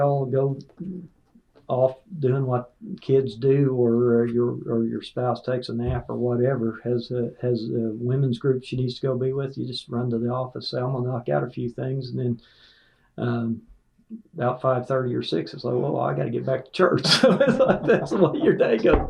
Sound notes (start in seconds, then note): 17.0 laughter